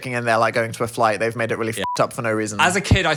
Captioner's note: beep